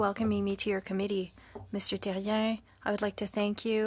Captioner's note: speaking French